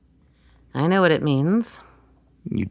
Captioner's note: flatly